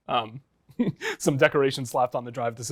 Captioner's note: laughs